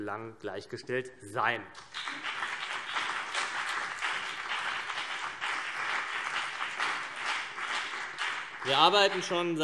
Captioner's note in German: Beifall CDU und BÜNDNIS 90/DIE GRÜNEN